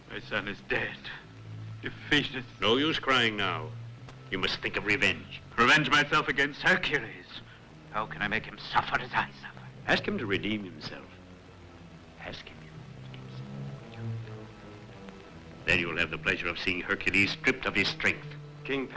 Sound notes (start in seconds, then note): 12.8 whispering